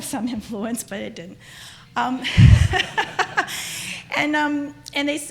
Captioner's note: laughter